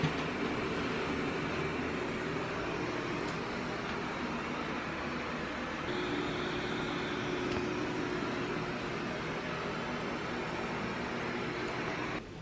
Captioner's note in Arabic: الضوضاء البيضاء